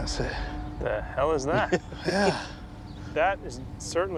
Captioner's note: laughs